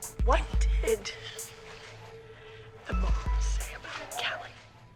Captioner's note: whispering